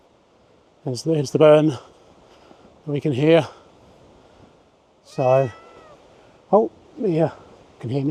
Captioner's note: Mia cries